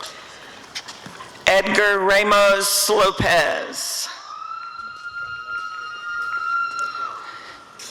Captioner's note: applause and cheering